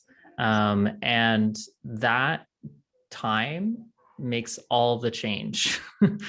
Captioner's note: chuckling